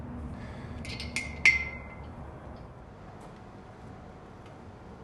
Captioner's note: metallic clanking